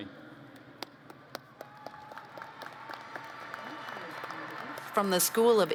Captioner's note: applause